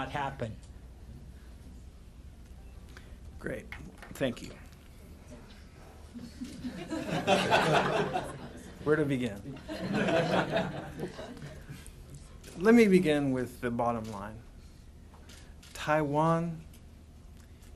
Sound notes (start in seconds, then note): 7.9 laughter; 11.4 laughter